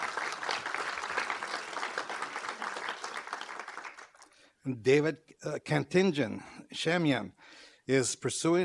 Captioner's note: applause